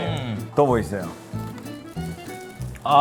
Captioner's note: rummaging